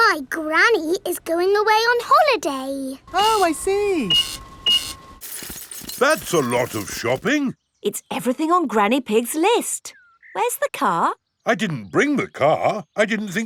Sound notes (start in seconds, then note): 3.1 cash register beeping